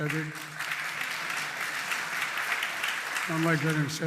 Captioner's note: applause